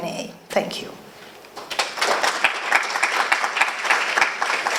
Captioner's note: applause